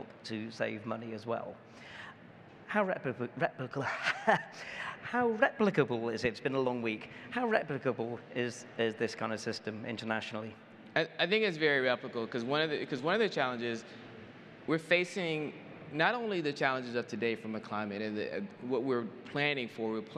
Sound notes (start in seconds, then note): 3.8 chuckles